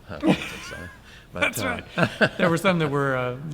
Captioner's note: laughs